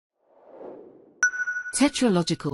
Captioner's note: logo whooshes in